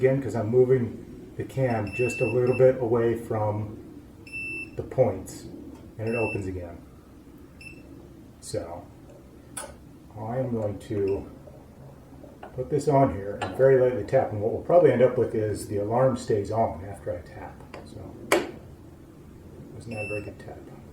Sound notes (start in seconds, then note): 5.6 beeping stopping and starting; 18.0 whack